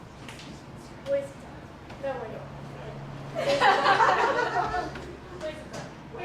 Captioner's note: laughter